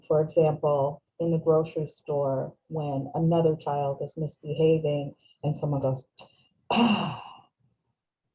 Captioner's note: audible sigh